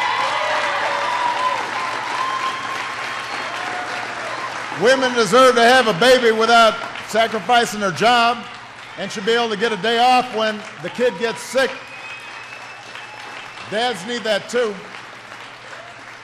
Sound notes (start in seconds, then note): 1.2 applause; 15.0 applause